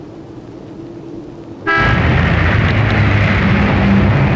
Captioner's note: cars honking